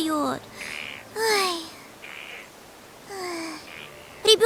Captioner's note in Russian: грустно вздыхает